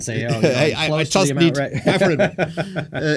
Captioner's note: laughing